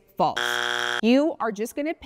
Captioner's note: buzzer buzzing